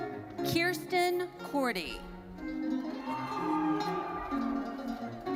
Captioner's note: audience cheering